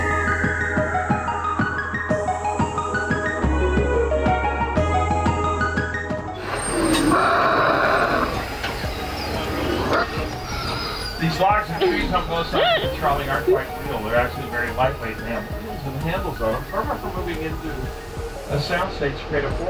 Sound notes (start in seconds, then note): 6.4 dinosaurs growling; 6.8 laughs